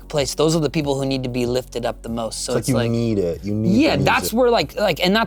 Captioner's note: laughs